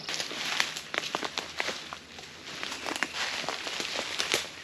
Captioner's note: twigs snapping